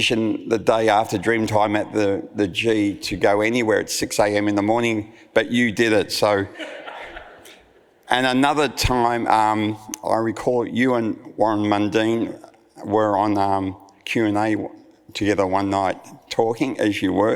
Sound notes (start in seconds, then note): 6.5 audience laughs